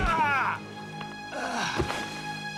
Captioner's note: groaning